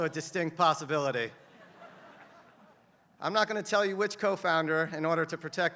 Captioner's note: laugh